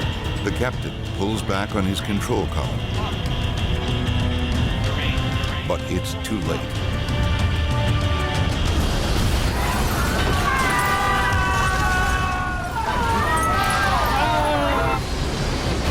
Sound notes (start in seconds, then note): 8.6 crashing; 9.5 screaming